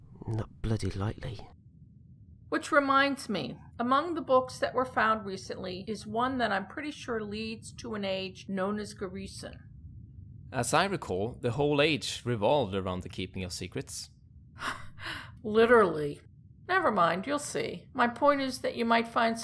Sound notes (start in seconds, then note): 14.6 laughing